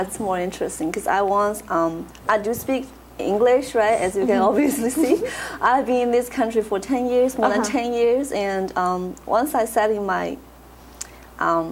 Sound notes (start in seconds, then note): 4.0 laughs